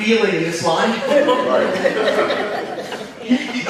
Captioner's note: audience laughing